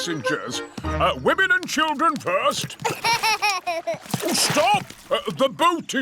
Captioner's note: laughs